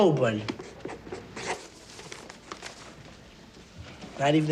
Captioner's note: scratching